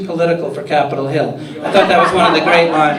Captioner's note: laughter